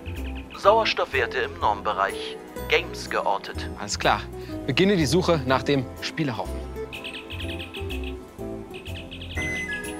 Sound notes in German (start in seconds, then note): 0.0 Piepsen; 6.8 Piepsen